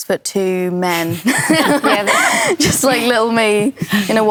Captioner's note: laughter